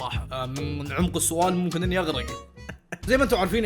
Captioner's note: chuckles